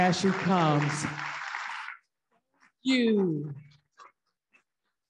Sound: audience applauding

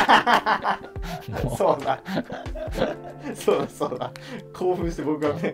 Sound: laughing

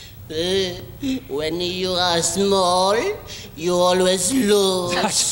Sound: groans

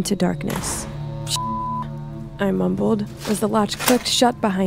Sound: beep

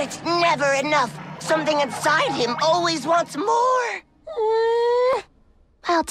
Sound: groan

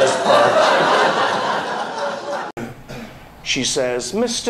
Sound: audience laughs

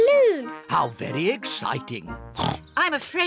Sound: oinks

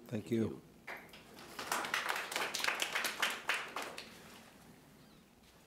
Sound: audience applauding

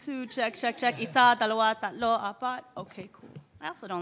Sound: speaks foreign language

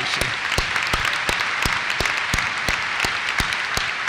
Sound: applause

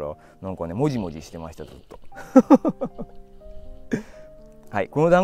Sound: laughs; laughs

